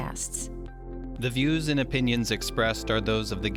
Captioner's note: voiceover